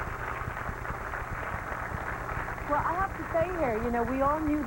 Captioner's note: applause